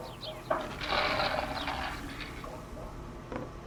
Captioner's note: dog food ratting in bowl